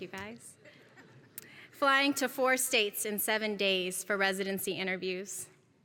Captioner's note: laugh